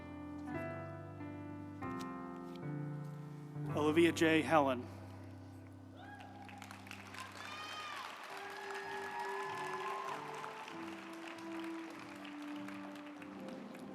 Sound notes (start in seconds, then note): 6.0 group applauding; 6.3 uplifting music